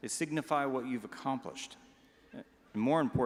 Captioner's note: none